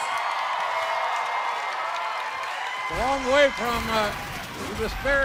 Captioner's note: crowd cheering